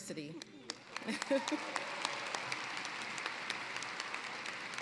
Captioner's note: applause